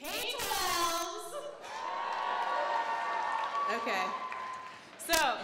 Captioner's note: crowd cheers